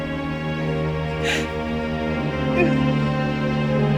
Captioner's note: crying